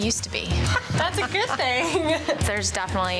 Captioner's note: laughs